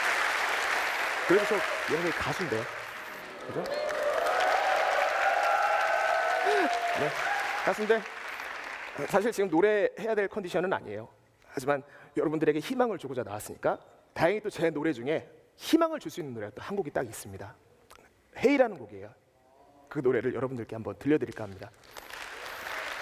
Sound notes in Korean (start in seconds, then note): 0.2 박수; 5.5 박수, 환호